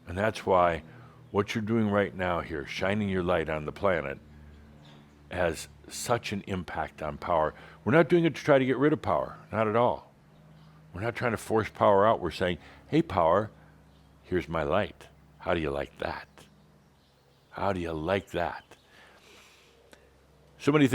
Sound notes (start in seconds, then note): none